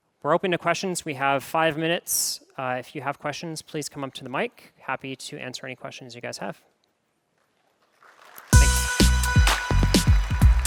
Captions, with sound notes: We're open to questions. We have five minutes. If you have questions, please come up to the mic. Happy to answer any questions you guys have. [APPLAUSE] [LOGO MUSIC PLAYING]